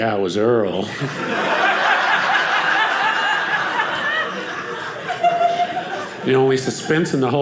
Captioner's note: audience laughing